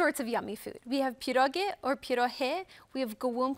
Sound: in Polish

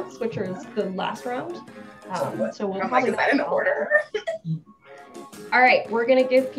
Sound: talking in the background

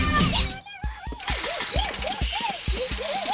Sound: whining

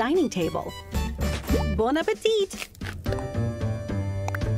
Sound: French accent

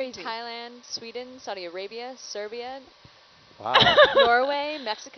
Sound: woman laughs

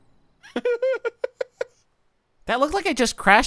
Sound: laughing

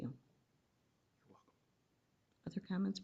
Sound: whispering

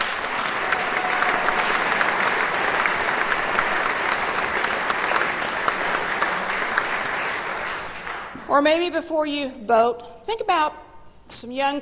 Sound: applause

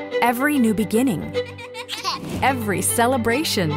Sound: upbeat music; baby laughs

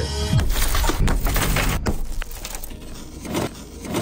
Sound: glass shattering

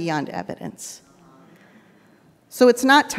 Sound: people in audience murmur

